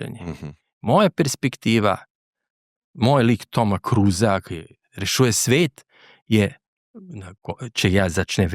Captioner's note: clears throat